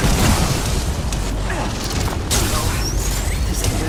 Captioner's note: gun shots